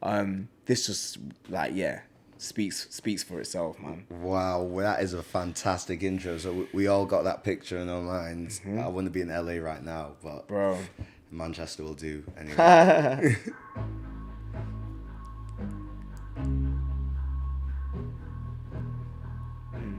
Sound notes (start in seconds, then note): 12.5 laughs; 17.1 instrumental music